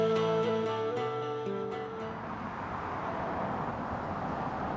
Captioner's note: cars passing